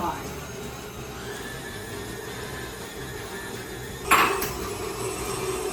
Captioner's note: mixer whirring increasing